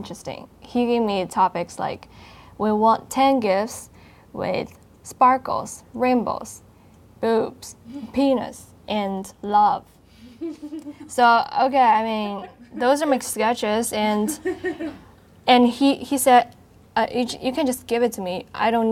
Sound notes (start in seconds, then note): 10.3 laughing